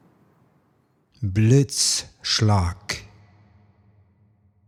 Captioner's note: german